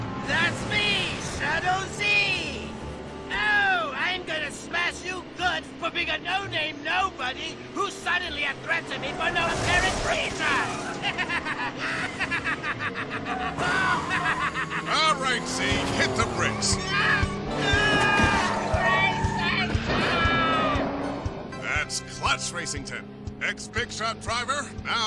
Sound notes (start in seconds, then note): 10.8 laughing; 12.2 objects crashing; 17.1 screaming; 17.1 tires squealing